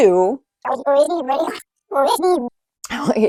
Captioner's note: tape rewinding